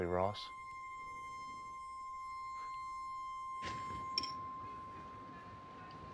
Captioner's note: piercing high-pitched tone